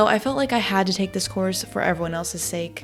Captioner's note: none